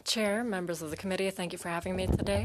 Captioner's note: speaking in French